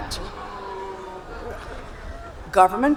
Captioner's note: audience booing